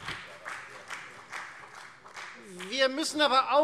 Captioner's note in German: Beifall Freie Demokraten und BÜNDNIS 90/DIE GRÜNEN